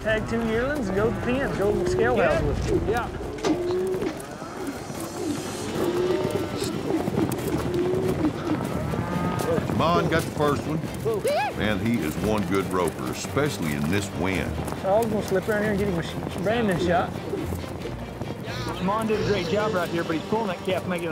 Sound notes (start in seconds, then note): 9.3 hoofbeats; 17.5 rope swirling